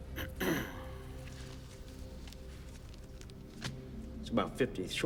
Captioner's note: Gammon clears throat